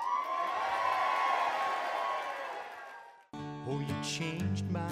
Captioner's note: cheering